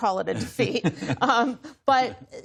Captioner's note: laughter